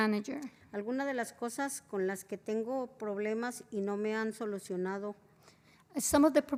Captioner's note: spanish